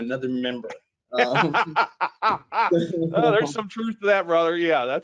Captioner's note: laughing